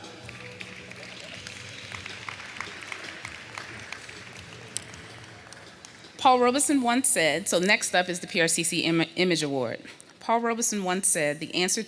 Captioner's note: applause